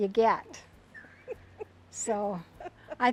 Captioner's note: laughs